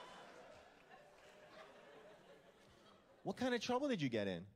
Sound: scattered laughter

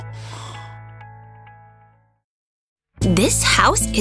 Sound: snoring

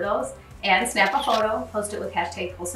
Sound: camera clicking

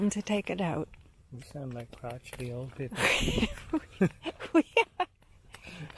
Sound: both laugh

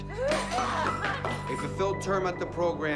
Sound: Maggie screaming; glass shattering

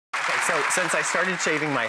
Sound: audience applauding

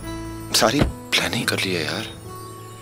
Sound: car door closes

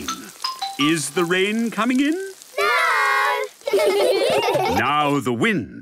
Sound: laughter

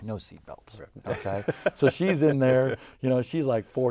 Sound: laughing

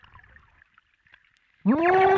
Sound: scream

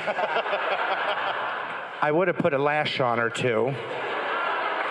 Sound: crowd cheering

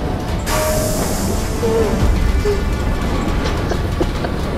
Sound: sob

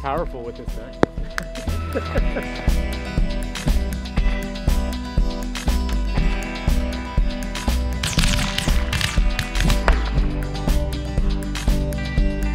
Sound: shooting

